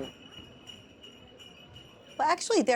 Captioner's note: bells jingling